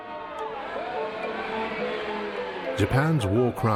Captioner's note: protestors shouting